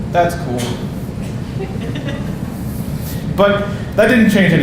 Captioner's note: audience laughing